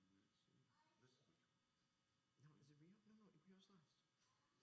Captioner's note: speaking faintly